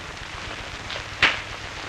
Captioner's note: crack